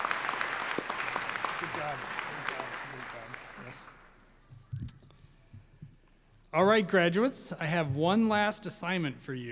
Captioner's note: applause